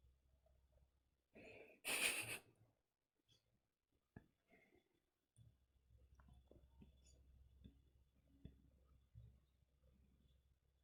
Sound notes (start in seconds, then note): 1.9 laughs